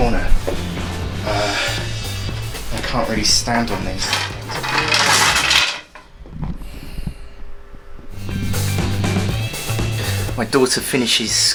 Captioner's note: crash